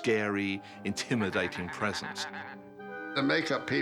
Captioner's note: cackling